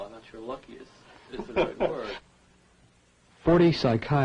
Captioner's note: laughing